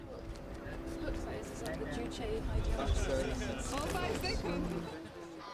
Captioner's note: indistinct chatter and laughing